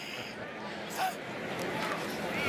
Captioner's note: laughs